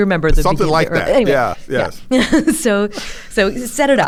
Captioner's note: laughs